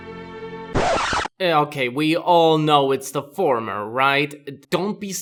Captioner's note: record scratch!